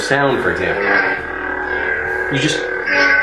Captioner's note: electronic buzzing